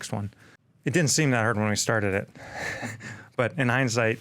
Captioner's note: chuckles